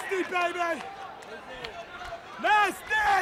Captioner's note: crowd chatter